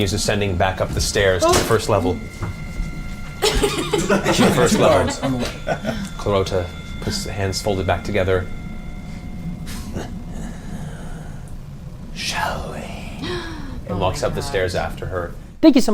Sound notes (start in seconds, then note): 2.2 offscreen thump; 3.4 all laugh; 8.7 unimpressed huff; 10.2 breathy voice